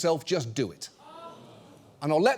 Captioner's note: audience gasps